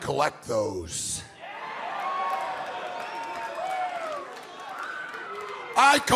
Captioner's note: crowd cheering